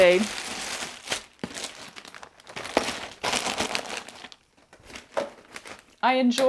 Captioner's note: crunching and rustling